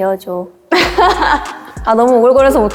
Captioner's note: aww~